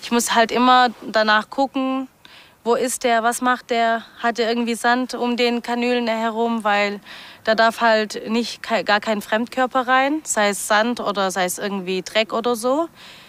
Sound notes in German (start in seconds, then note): none